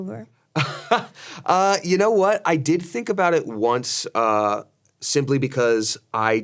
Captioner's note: laughs